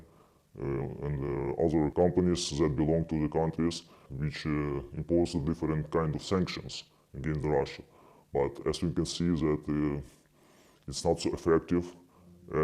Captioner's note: speaking alternate language